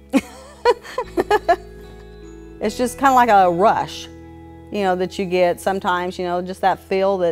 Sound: laughs

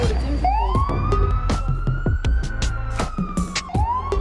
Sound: an ambulance passing

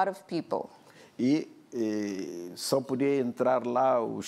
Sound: speaking portuguese

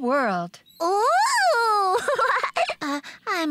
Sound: giggling

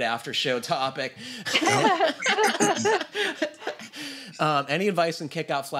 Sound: laughter

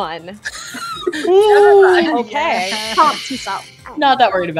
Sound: overlapping laughter and chatter

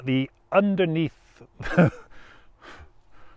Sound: laughs

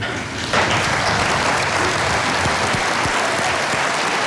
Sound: audience applauding

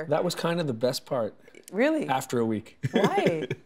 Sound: laughing

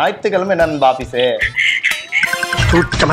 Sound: laughs

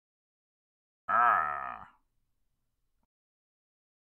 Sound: Frankenstein groan

